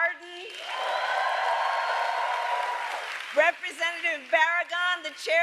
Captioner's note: applause